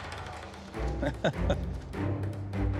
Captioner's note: laughter